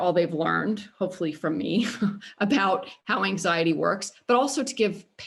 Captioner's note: laughter